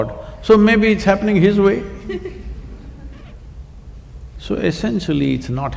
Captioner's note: laughter